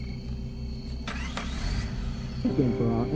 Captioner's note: car engine revving